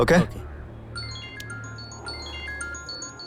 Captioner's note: phone Ringing